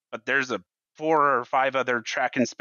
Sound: none

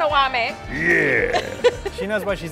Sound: laughing

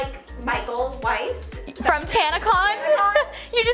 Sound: laughs

